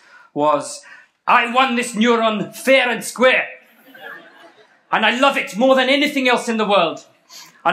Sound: bad South African accent

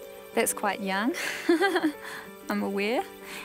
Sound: laughs

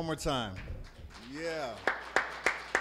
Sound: applause

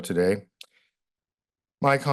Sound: pause

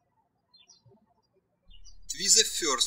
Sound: birds chirping

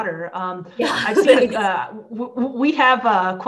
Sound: laughs

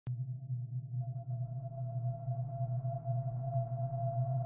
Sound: ethereal droning sound

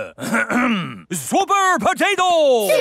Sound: clears throat

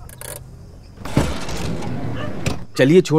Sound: door opening. Dogs barking on street

